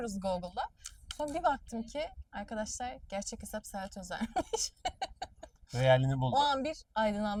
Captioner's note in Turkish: kahkaha